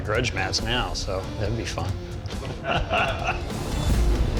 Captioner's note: laughs